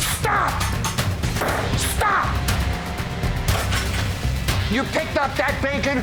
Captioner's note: hand slams